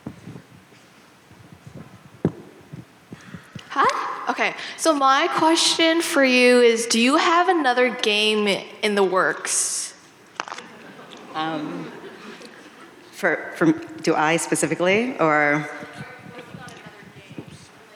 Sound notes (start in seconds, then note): 10.5 audience laughing